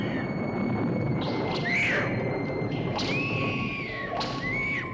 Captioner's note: thunder clapping; screaming; whip cracking